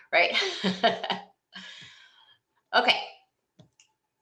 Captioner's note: laughs